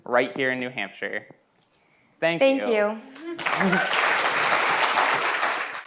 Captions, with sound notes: right here in New Hampshire. Thank you. Thank you. [APPLAUSE]